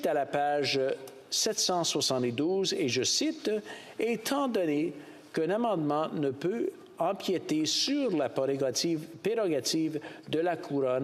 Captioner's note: speaking French